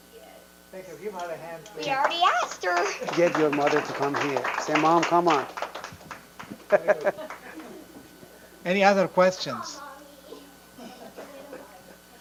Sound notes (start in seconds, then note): 1.8 audience applause